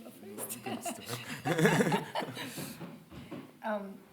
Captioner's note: laughter